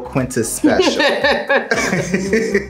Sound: Quinta laughs; laughs

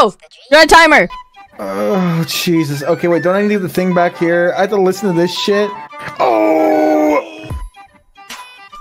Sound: groan

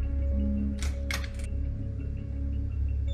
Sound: door open

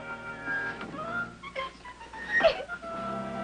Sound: crying

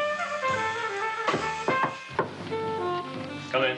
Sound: knocking

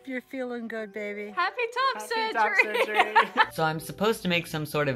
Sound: laughing

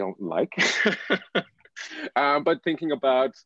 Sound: laughter

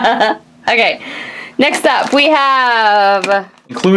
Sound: laughs

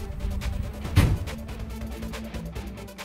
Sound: van door closes

